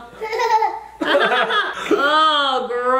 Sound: laughter

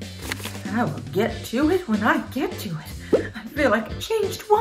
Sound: popping

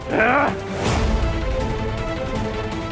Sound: grunting

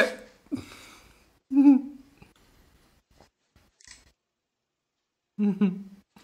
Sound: laughs

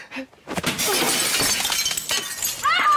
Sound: glass smashing

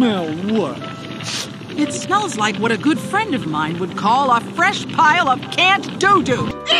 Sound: sniffs

